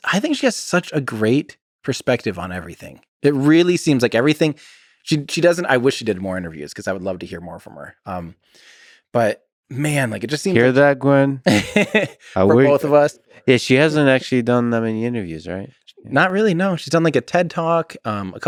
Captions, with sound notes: I think she has such a great perspective on everything. It really seems like everything, she doesn't, I wish she did more interviews 'cause I would love to hear more from her. but man, like it just seem- - Hear that Gwynne. (laughs) - For both of us. - Yeah, she hasn't actually done that many interviews, right? - Not really, no. She's done like a Ted talk,